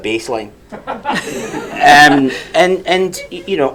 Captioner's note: audience laughs